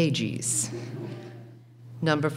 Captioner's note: laughing